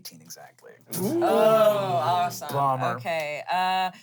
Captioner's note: everyone groans